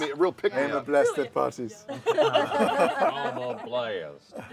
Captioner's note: laughter